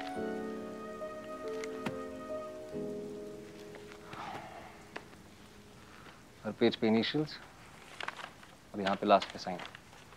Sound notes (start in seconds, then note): 4.0 sighs